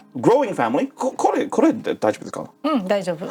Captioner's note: speaking in foreign language